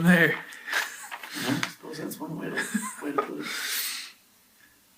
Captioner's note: laughs